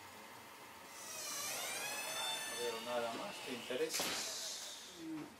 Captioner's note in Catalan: Chirría una puerta